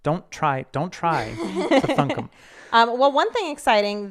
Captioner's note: laughing